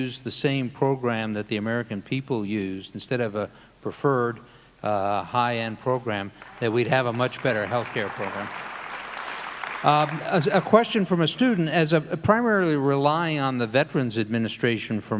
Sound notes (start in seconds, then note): 8.5 audience applauding